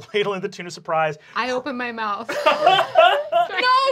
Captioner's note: laughing